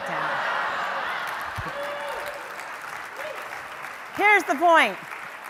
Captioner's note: audience laughter and applause